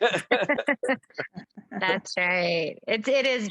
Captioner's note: laughing